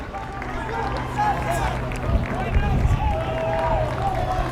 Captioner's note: crowd cheering and clapping